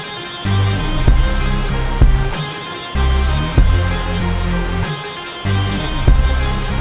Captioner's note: dramatic music; rain splashing